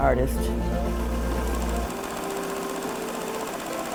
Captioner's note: machine whirring